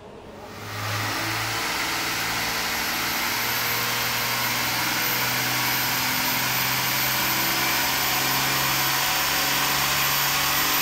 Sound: engine revs on dynomometer

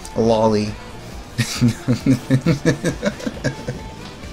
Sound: laughter

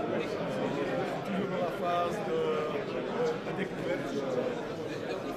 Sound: speaking foreign language

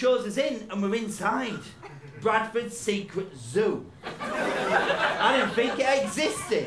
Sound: laughter

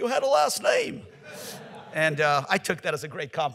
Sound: audience laughs

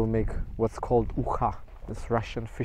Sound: speaking foreign language

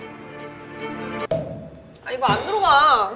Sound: thud

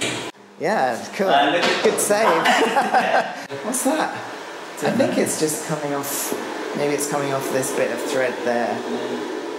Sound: laughs

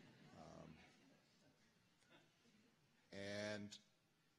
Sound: laughter

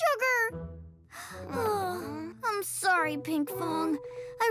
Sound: sighs

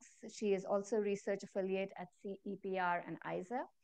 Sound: none

